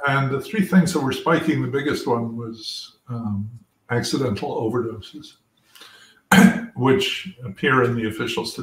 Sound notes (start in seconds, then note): 6.3 cough